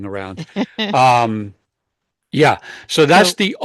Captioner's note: laughs